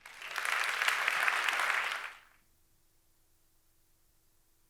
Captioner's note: audience applauding